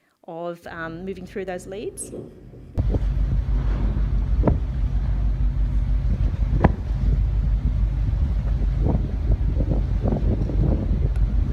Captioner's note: sounds of the ship moving